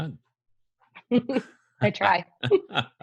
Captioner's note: laughs